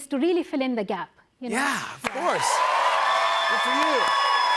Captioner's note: cheers and applause